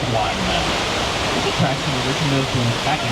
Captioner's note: water whooshes